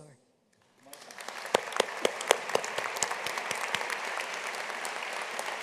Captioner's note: audience applauding